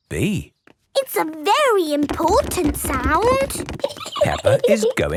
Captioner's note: giggling